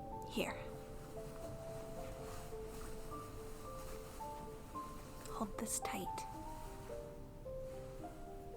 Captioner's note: fabric balling up sounds